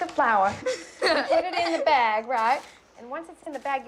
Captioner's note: laughing